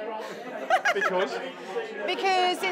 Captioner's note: laughter